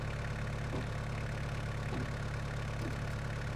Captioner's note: engine idling